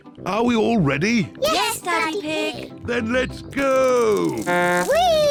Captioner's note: blows horn